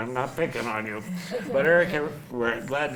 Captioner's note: laughs